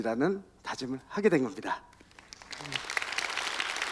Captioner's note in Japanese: 拍手